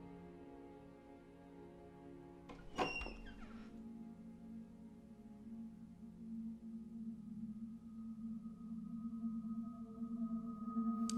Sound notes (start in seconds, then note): 2.5 door squeaks